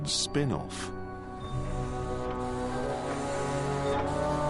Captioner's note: engine revving